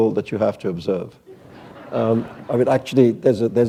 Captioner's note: laughter